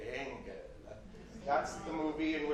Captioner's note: audience murmurs